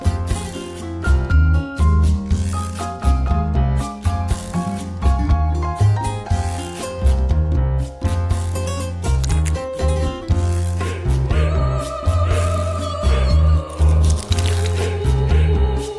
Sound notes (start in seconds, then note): 11.1 sky key squeaks